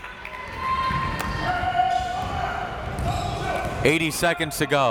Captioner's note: crowd members shouting